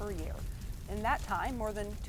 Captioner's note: flames crackling